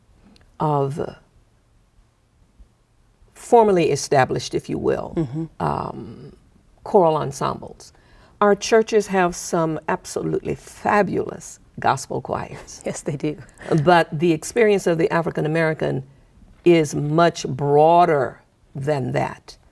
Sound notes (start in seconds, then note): 12.6 chuckling